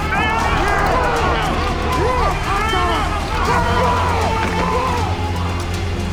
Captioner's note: yelling